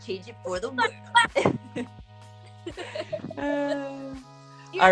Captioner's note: laughing